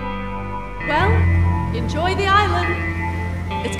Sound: voice-over

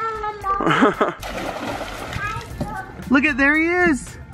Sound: splashing

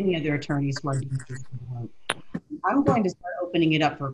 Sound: audio glitch

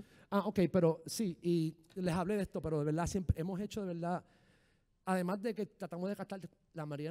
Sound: speaking in foreign language

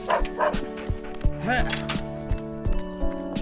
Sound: panting

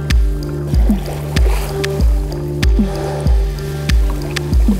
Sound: cinematic music; paddling, puffing

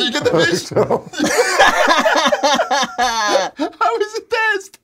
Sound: laughter

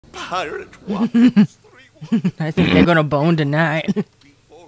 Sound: laughing

